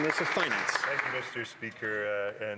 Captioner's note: some Applause